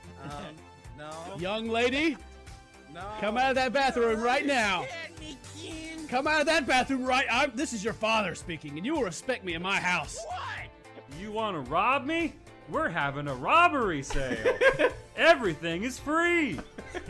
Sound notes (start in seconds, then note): 10.1 yelling; 14.2 laughs